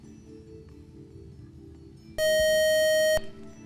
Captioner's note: buzzer